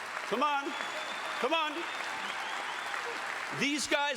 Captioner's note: audience applauding; audience cheering